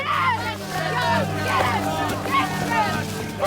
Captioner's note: kids yelling